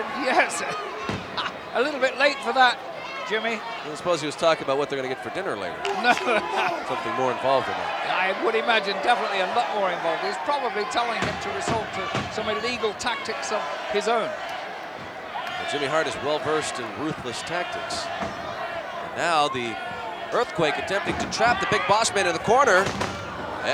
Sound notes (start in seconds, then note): 1.3 laugh; 5.8 laugh